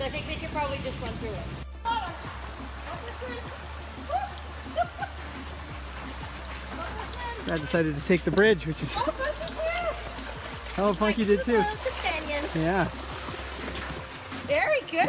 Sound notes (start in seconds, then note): 4.0 laugh